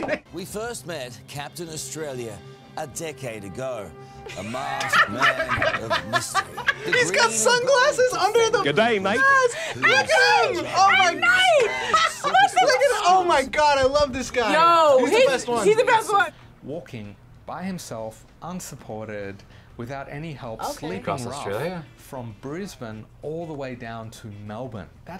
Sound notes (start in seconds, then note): 4.2 both laugh; 12.5 gasps